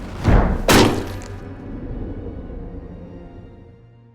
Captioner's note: suspenseful music; head thuds